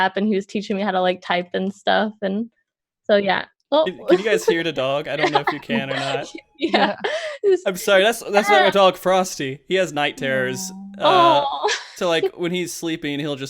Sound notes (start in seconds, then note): 7.0 laughs